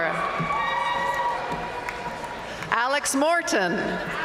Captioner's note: audience cheering and applauding